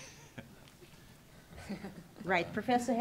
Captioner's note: laughing